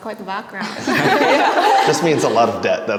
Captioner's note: all laugh